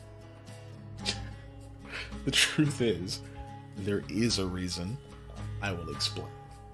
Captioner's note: laugh